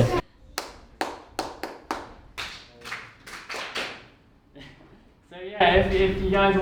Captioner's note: clapping followed by audience clapping back